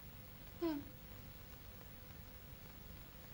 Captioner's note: whimpers